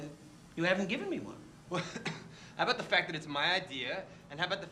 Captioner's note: coughs